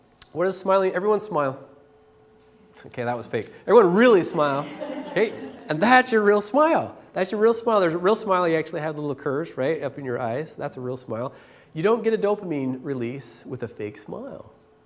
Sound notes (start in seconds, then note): 4.2 laughter